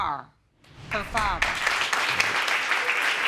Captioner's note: applause